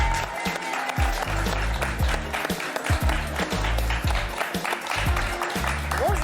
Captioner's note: applause